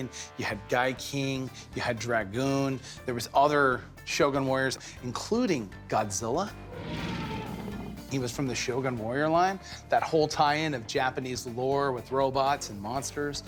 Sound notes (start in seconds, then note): 6.7 creature roaring